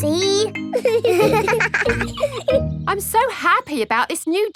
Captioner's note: both laughing